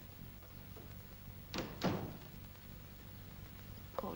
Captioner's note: door closes